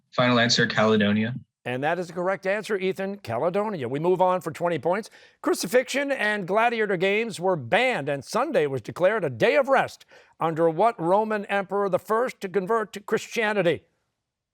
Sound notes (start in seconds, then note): none